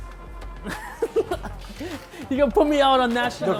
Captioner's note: laughter